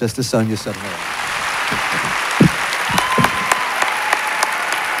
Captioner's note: applause